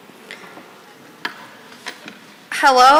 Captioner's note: none